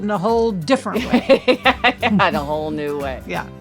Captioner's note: laughs